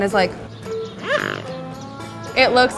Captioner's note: swan honking